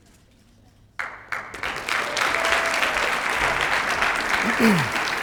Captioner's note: applause